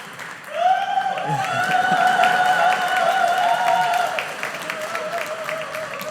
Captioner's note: audience cheers; whoops